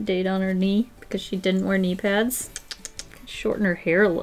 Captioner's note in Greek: Αποδοκιμασία: Τσ τσ τσ τσ